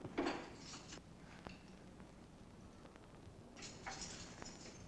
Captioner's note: keys jingling